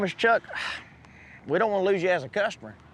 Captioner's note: sighs